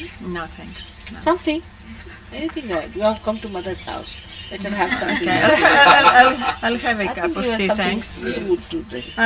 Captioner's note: laughter